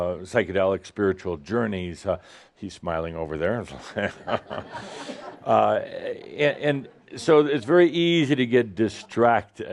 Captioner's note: some laughter